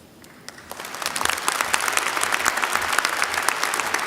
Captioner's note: applause